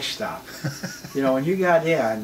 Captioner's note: laughs